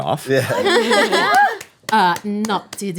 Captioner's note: laughing